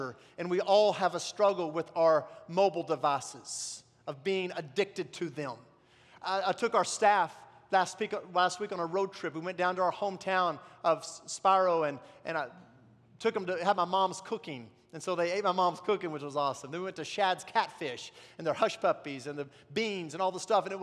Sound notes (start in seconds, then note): none